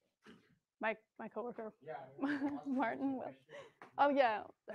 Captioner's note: murmurs